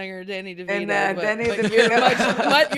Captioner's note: everyone laughing